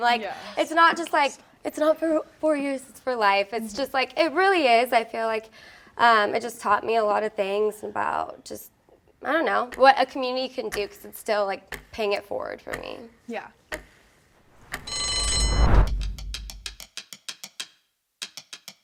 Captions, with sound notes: like it's not just like, it's not for four years. It's for life. It's just like, it really is. I feel like it just taught me a lot of things about just, I don't know, what a community can do cause it's still like paying it forward for me. - Yeah. (bell rings)